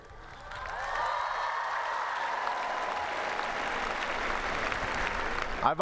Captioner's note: applause